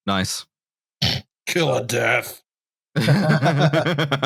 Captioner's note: snorts; laughter